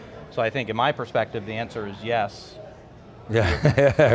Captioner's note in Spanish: risas